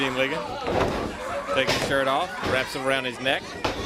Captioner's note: crowd cheering